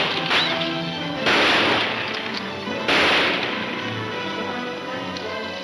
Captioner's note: gunshots banging